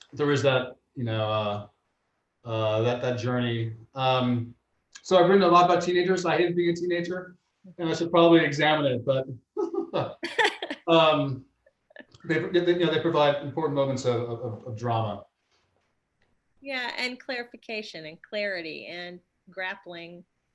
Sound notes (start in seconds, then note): 9.5 laughs